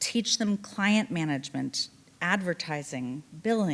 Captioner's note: none